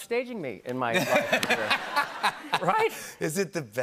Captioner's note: laughter